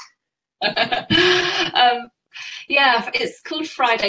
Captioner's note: laughs